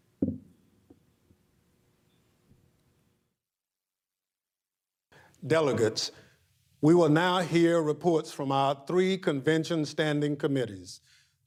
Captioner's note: gavel pounding